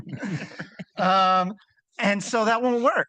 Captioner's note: participants laughing